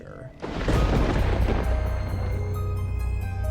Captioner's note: thunder crackling